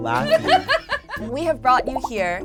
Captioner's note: laughs